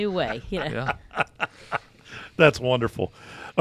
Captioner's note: laughing